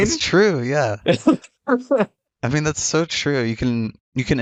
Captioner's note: laughs